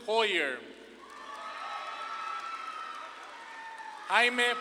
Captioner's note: audience claps and cheers